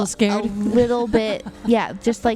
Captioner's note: laughs